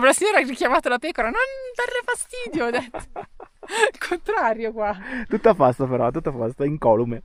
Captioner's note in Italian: risate